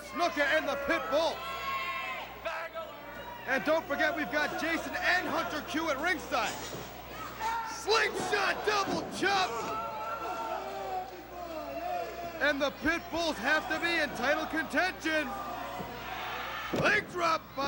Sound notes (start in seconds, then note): 7.1 crowd chatter